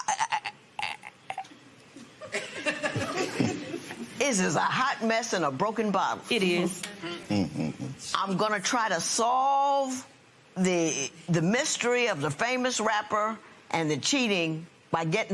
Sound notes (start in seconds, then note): 1.2 stammers; 2.2 laughter